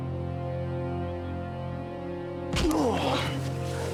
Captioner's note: dramatic music; grunting